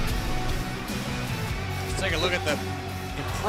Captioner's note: crowd cheering